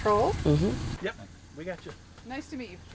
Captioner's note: male Voice